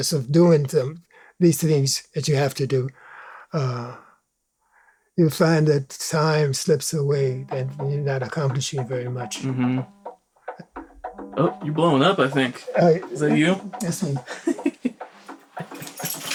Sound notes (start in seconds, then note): 10.5 cellphone ringing; 12.4 laughs